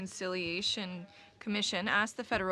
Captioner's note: speaking French